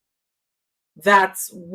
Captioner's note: paause